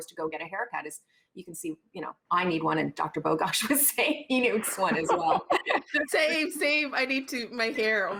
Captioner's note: laughing